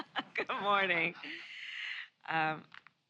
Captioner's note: laughs